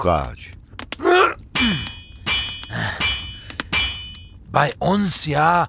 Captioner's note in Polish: odgłos uderzeń kowalskiego młota